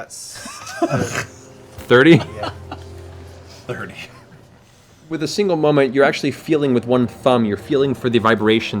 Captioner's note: laughs